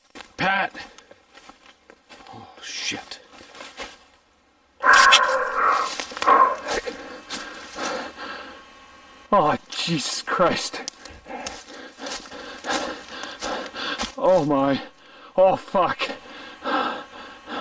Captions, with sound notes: - Pat! - Oh, shit. [Arrow sound] [Breathing heavily] Oh Jesus Christ. [Breathing heavily] Oh my, oh fuck.